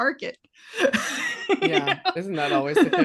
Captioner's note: laughing